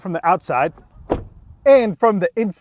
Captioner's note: door closing